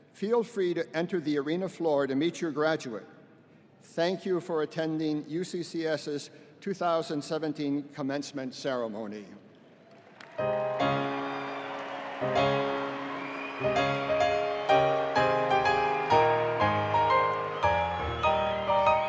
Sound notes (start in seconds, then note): 9.8 audience applauding; 10.4 enchanting piano music